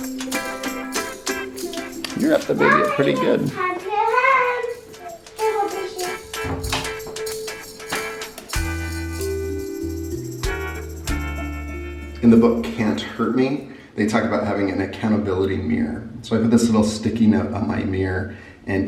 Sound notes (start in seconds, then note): 4.6 child speaking; 5.8 upbeat music